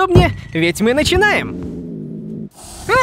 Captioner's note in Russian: звуки злой кошки